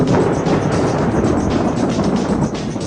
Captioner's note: thunder